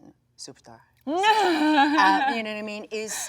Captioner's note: speaking in foreign language; Jung Laughs